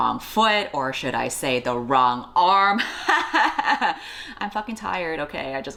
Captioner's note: fake laugh